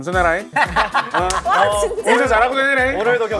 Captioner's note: hahaha